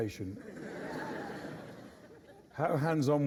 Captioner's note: laughter